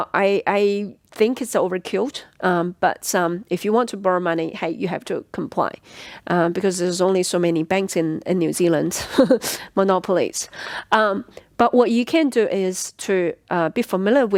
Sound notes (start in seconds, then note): 9.0 giggles